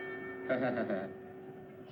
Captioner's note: laughs